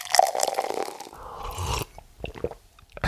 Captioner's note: drink flowing; person slurps